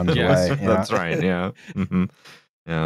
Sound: chuckles

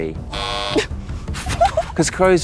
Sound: buzzer sounds; Jessie chuckles

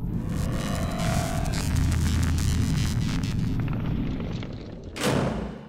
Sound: sci-fi sound effects

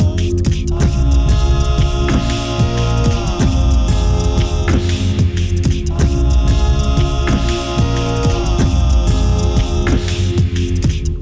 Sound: addition of vocal percussion

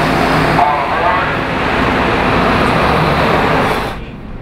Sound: train station PA blares

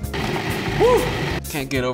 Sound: processor whirring

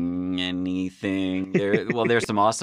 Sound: chuckling

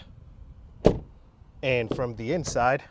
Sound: car door bangs softly

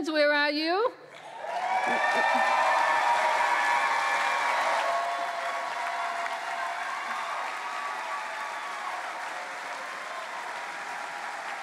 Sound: cheering

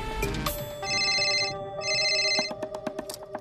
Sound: phone ringing

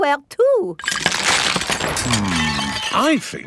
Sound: cracking

